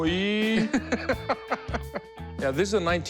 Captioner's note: laughing